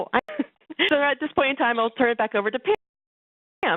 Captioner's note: laughs